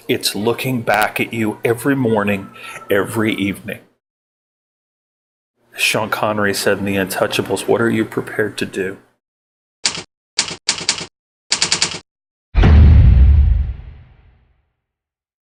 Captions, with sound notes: It's looking back at you every morning, every evening. Sean Connery said in the Untouchables, "What are you prepared to do?" (typewriter clacks) (thuds to the ground)